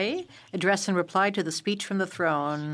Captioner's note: speaking French